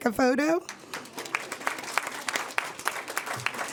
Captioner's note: applause